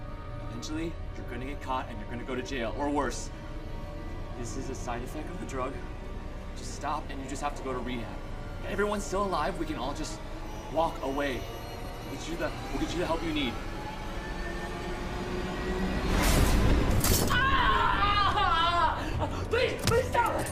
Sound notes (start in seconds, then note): 14.0 suspenseful music; 16.1 intense music; 17.0 bear trap snaps; 17.3 Neil screaming